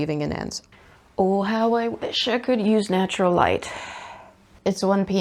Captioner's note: sighs